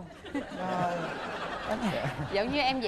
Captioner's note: laughing